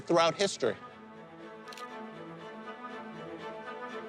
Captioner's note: camera shutter clicks